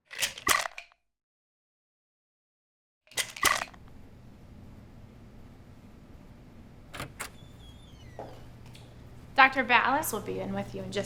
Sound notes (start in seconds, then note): 3.1 pills rattle; 6.9 door opens